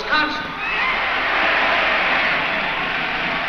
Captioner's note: crowd cheers